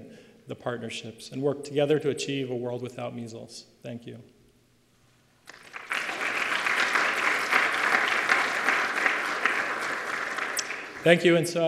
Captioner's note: applause